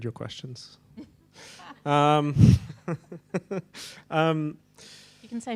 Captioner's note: person laughing